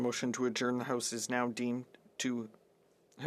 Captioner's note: speaking French